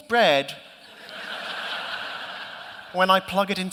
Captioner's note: laughter